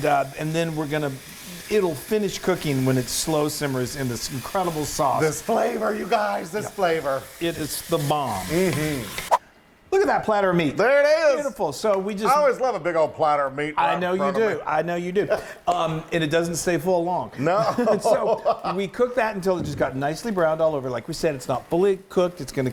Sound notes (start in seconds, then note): 17.9 laugh